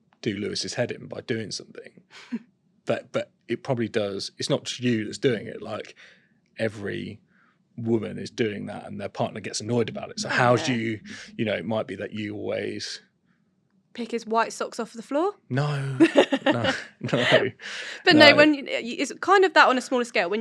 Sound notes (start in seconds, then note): 15.9 laughter